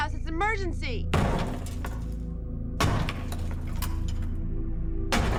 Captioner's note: hammer banging